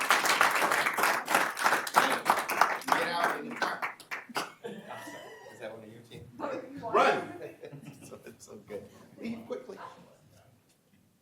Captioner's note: applause